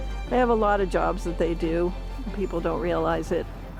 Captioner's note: pensive music; waves crashing